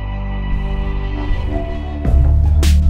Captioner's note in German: Dröhnen; Dynamische Musik